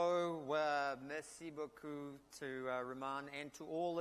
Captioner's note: speaks in a foreign language